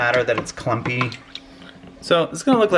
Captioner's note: stirring